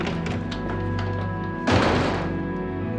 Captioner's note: door slams